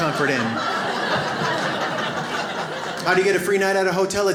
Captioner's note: audience laughs